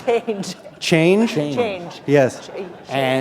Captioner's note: laughter